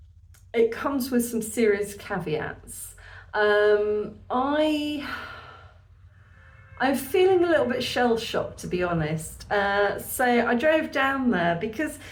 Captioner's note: sigh